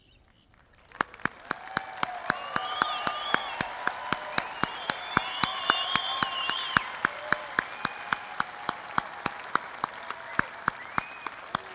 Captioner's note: applause